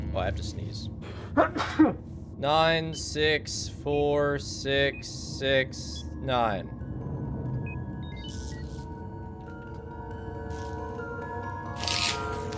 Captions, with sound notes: Oh, I have to sneeze. (Achoo!) 9, 6, 4, 6, 6, 9.